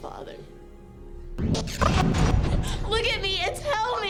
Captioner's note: rapid startling swooshes